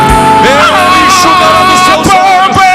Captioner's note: shout